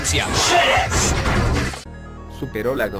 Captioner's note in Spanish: Voz con efectos